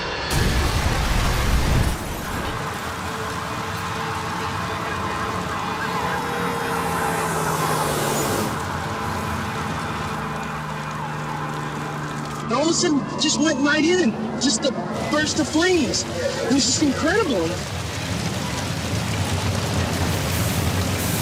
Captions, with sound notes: (plane crashes) (fire truck blaring) - All of a sudden it just went right in, just a burst of flames. It was just incredible. (fire roaring)